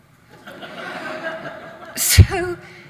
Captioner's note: audience laughs